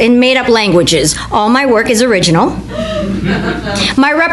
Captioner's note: laughter from the audience